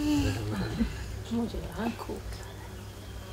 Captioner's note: child giggling; foreign language being spoken